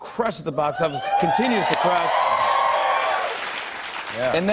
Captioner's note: cheers and applause